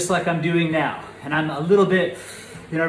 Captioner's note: sighs